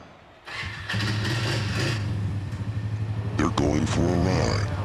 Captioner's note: engine turning over